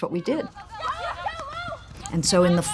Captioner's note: sound of field hockey game in progress